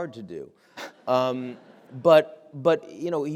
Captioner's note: audience laughing